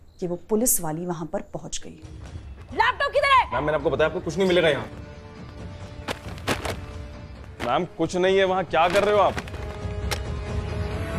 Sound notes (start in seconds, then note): 6.0 throwing books on ground; 10.1 drawer opens